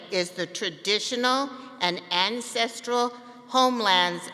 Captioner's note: none